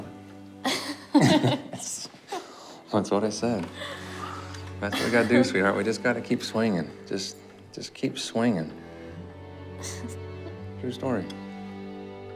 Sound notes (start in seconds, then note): 0.6 both laughing; 3.7 sighs